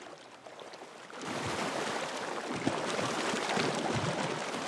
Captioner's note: water splashes